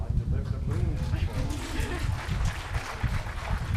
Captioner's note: applause